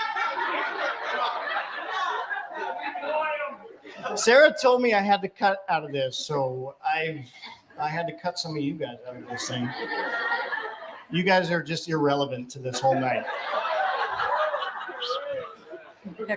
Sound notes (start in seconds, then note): 4.1 laughter